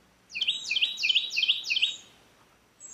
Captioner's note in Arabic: زقزقة العصافير